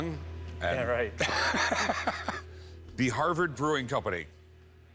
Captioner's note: laughs